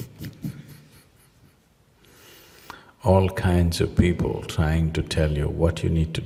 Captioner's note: laughs